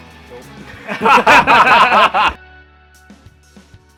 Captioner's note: both laughing